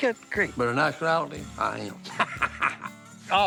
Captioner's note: laughs